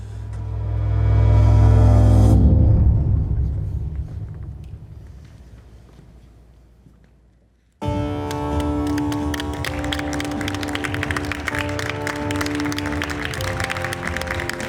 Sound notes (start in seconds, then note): 8.5 applause